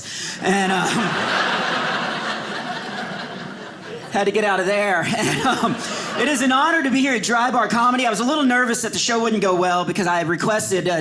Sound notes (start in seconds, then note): 0.4 audience laughing